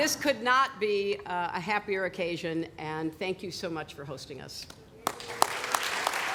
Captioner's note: laughter; applause